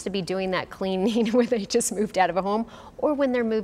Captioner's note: chuckles